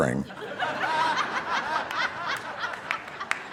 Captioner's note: all laughing